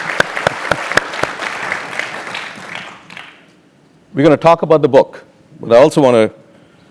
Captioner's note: applause